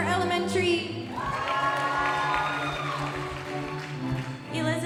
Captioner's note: audience applauding